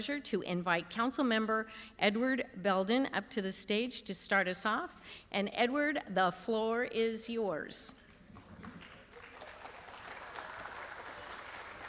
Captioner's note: applause